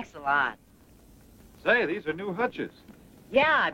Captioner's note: none